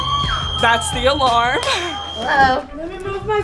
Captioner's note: alarm ringing